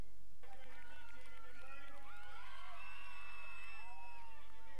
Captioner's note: crowd cheering